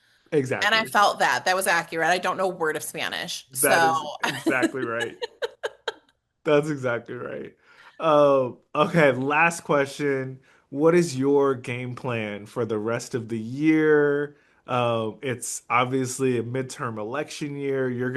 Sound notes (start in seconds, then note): 4.1 laugh